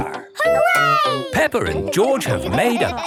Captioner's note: laughing